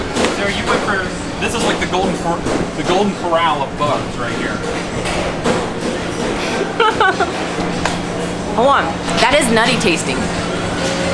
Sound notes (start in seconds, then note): 6.5 laughs